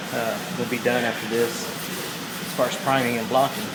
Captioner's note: sanding